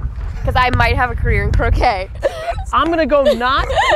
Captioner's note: laughs